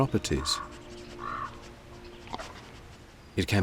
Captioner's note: wolf sniffing